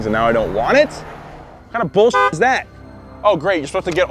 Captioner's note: honk